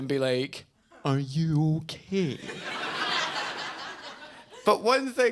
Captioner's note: audience laughs